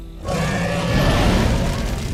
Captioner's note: dragon roars